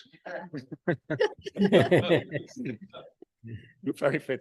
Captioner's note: panel laughs